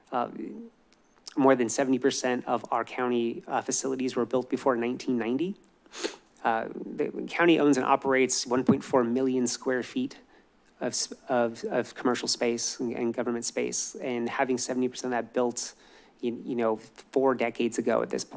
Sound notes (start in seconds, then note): none